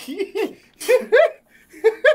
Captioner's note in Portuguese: risadas